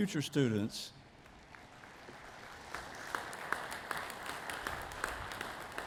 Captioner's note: audience applauding